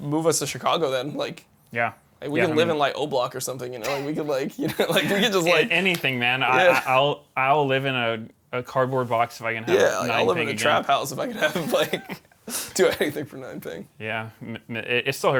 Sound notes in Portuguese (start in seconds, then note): 4.5 risos; 11.3 risos